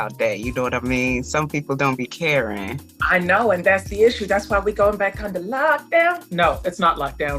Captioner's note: singsong